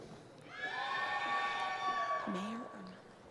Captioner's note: cheering